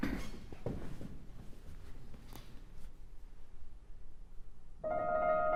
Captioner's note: laughs